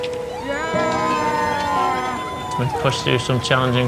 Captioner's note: cheering